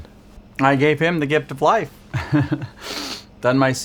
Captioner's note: chuckles